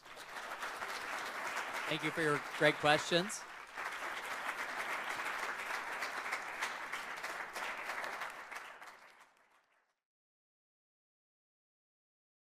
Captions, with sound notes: (everyone applauding) Thank you for your great questions. (everyone continues applauding)